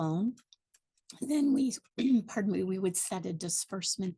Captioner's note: clears throat